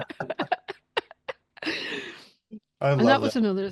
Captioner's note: laughs